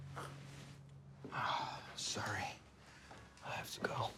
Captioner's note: sighs